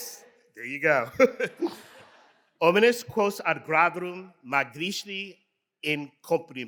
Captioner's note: chuckles